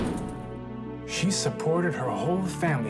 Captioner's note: gunshot